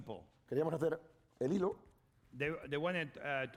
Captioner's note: speaking spanish